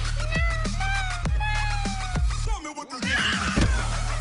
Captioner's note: cat meows